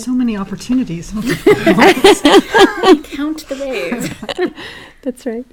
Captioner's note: laugh